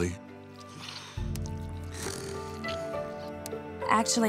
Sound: snoring

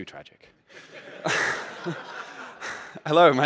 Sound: laughter

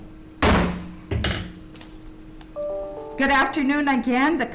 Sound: gavel bangs

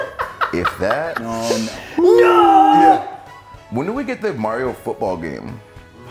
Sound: laugh

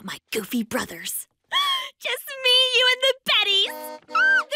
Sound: horn honks

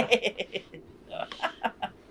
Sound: laughter

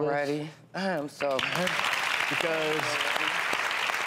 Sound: applauding

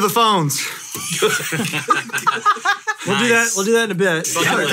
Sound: hosts laugh

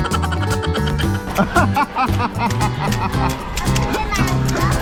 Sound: laughing

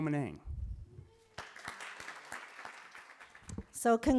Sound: applause

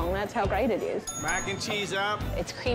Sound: bell dinging

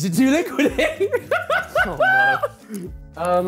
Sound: laughing

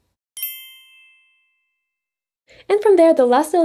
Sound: text chimes

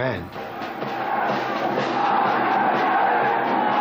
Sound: chanting

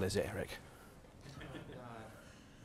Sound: laugh

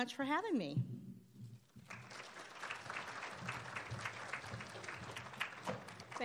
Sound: applauding

